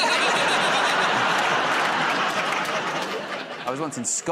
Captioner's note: laughter